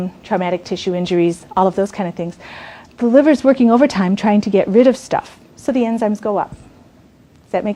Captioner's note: none